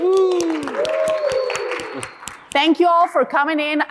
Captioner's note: applause, cheering